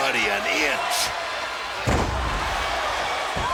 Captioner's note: person thudding; crowd cheering